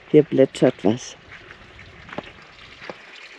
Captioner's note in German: Leises Plätschern